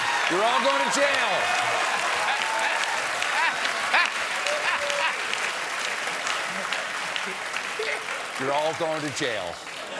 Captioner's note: laughter